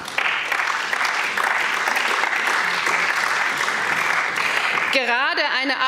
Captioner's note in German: Applaus